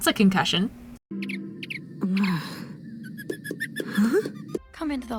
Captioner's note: Flapjack makes a ruckus while Luz groans in pain